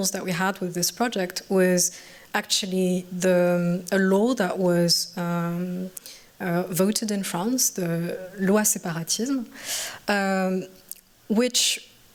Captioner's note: french